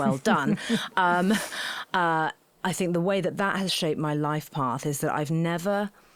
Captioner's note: laughing